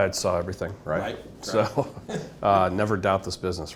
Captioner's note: laughing